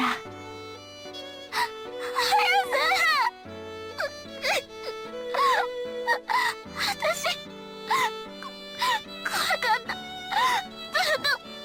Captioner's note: sob; sobsob